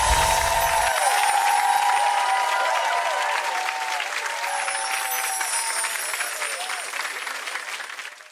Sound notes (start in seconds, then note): 0.0 cheers and applause; 4.7 twinkle sounds